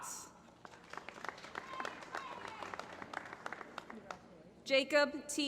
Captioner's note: applause